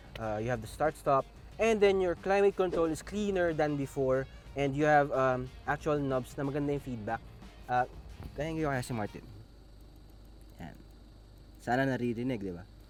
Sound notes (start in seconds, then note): 9.7 climate control knobs clicking